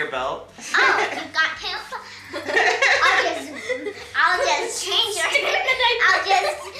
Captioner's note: all laugh